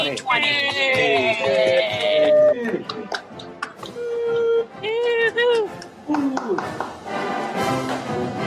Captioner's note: applause